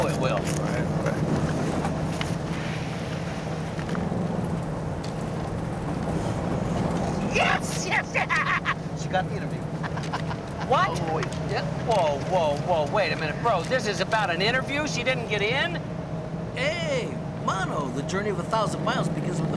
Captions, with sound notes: All right, all right. (sighing) Yes! Yes! She got the interview. What?! Yep. Whoa, whoa, whoa, wait a minute, bro-- this is about an interview? She didn't get in? Hey,mano,the journey of a thousand miles